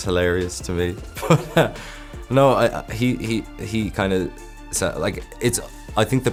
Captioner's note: laughs